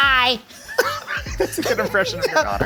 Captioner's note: laughs